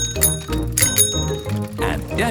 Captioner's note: bicycle bell dinging